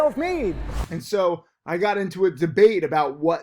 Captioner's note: air whooshes